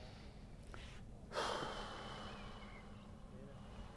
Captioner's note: sigh